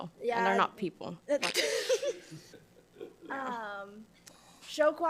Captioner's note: all laugh